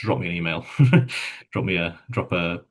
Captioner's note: chuckles